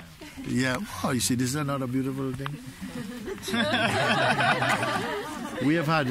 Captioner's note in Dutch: gelach